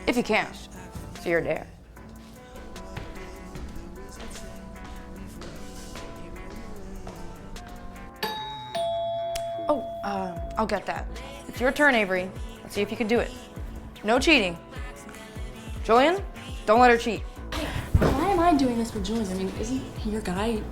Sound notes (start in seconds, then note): 1.7 trippy hip hop music; 2.0 footsteps thudding; 8.2 doorbell ringing